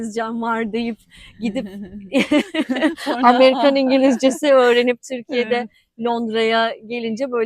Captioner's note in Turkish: kahkaha